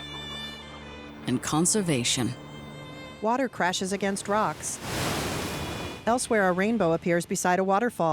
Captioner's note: water roaring